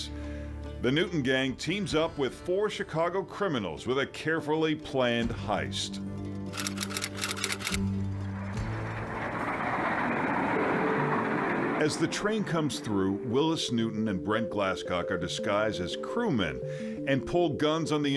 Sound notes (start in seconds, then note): 7.6 keys tapping